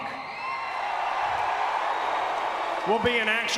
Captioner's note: crowd cheering